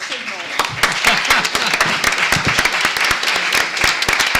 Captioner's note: applause